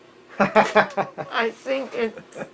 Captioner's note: interviewer laughing